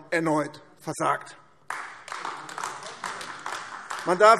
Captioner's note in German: Beifall AfD